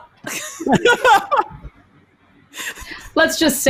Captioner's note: laugh